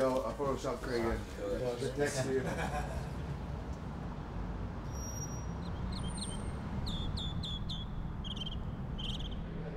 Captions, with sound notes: Don't worry, Joe, I'll Photoshop Craig in right next to you. (birds chirping)